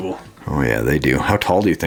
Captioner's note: voiceover